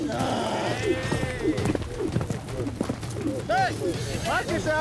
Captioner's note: rope swirling, whooshing